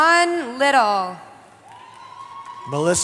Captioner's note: cheering